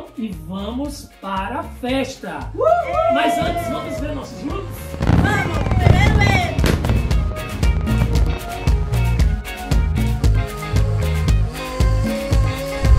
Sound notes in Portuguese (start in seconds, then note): 2.5 Gritos de Comemoração; 6.1 Efeito sonoro de transição; 7.6 Música ao fundo